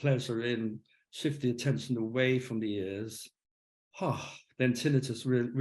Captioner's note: sighs